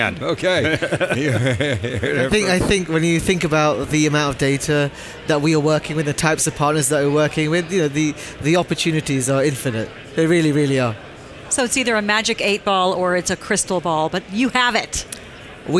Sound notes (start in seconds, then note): 0.4 panelists laugh